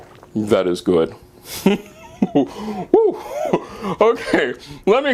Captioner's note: laughing